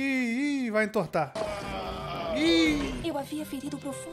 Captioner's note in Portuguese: choro